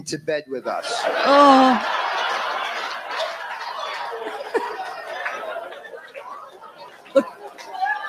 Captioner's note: laughter; groans